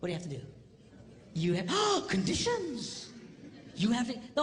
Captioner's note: gasp